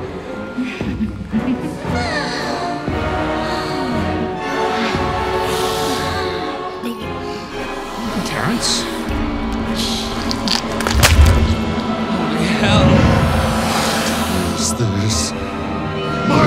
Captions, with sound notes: (laughing) - Terrance? (flesh ripping) - Holy hell! - What is this?